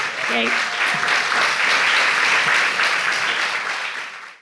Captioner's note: audience applauds